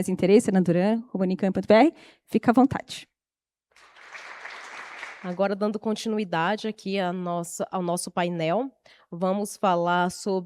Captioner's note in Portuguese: aplausos